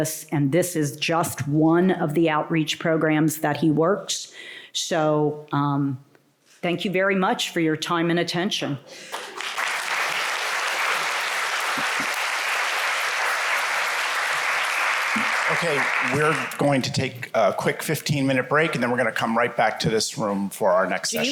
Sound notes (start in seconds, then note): 9.0 applause